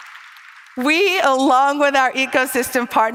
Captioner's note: applause